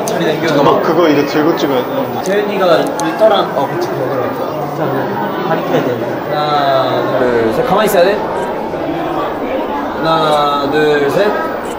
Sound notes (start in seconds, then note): 7.8 yawning